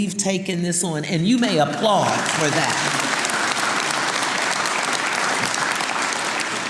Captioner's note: audience applauding